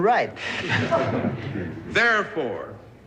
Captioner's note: laughter